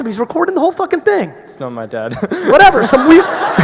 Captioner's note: laughs